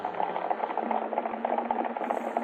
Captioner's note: horses galloping